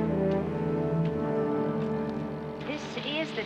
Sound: none

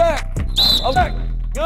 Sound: whistle

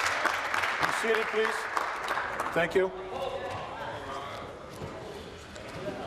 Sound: applause

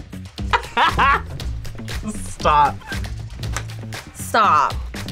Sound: laughs

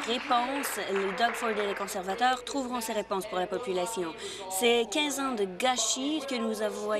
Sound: applause

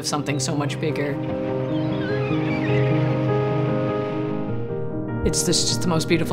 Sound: inspirational music; birds chirping

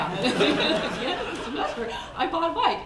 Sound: laughing

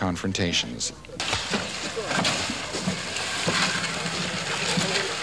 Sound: machine engine revving

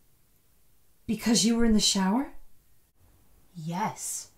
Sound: none

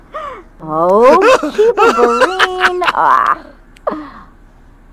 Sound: laughes

